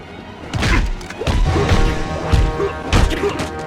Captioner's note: fists slamming